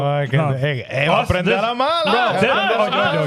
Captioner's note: speaking In Foreign Language